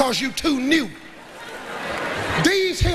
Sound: audience laughs

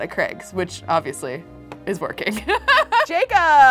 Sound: laughs

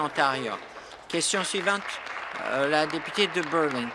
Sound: applause

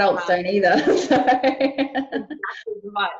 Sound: laughing

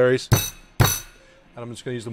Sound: thudding

